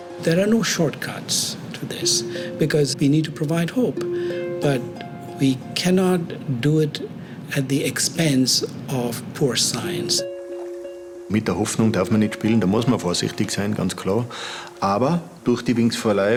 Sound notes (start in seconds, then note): 11.3 German